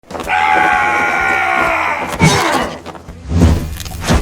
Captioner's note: soldier yelling